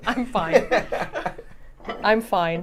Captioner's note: Saf laughs; laughs